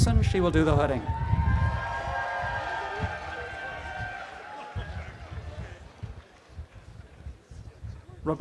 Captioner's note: audience applause